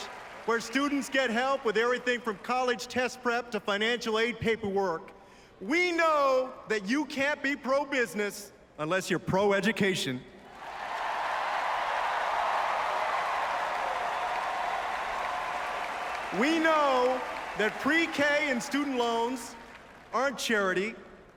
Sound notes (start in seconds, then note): 14.6 applause